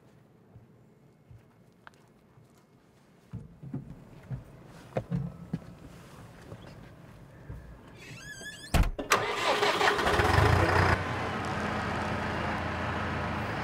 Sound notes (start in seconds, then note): 9.0 engine starts